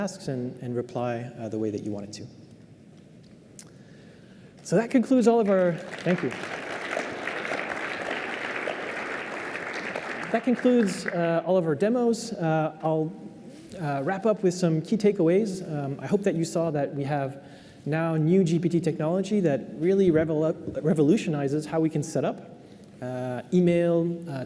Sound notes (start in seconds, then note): 5.2 applause